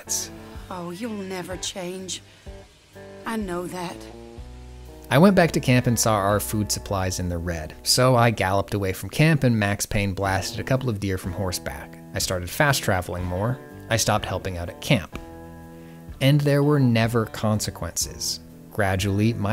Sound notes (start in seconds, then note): none